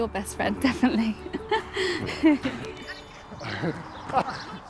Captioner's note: laughing; birds tweeting